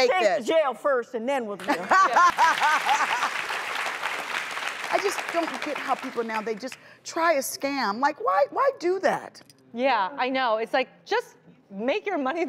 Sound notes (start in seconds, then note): 1.6 laughter and applause